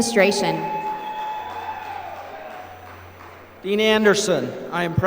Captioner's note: applause